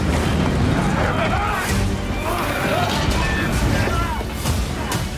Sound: all yelling, screaming

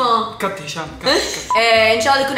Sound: chuckles

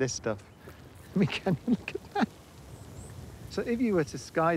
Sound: laughs

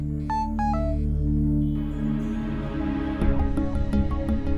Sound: phone ringing; tense music

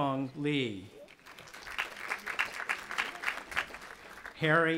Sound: audience applauding

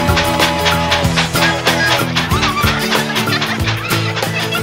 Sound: train chugging

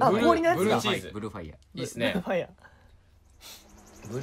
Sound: chuckles

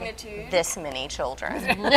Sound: laughing

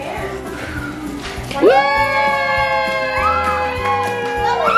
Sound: everyone cheering

